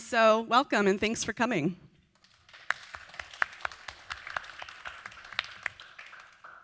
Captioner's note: audience Applause